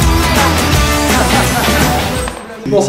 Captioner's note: laughs